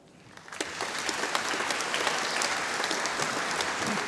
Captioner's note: audience applauding